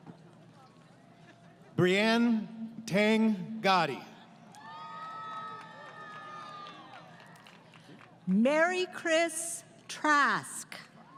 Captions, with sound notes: >> Breinn Teng Gaddi. [ Crowd Cheering ] >> Mary Chris Trask.